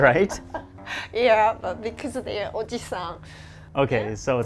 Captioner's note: laughs